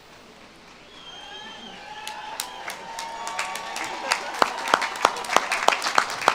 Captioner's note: audience claps and cheers